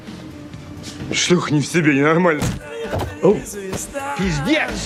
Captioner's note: speaking foreign language